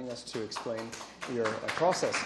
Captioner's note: applause